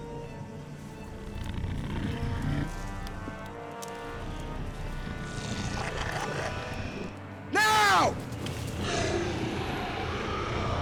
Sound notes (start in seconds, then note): 0.7 dragon murmuring; 8.6 dragon roaring